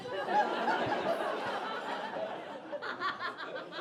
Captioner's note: audience laughing